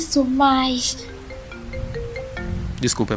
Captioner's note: cell phone rings